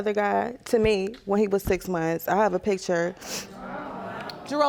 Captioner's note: gasping